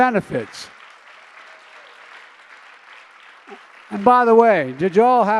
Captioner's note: applause